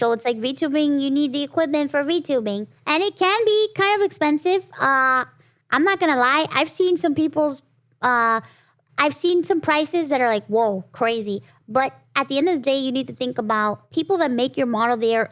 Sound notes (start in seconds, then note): none